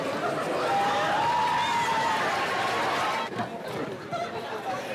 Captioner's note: students cheering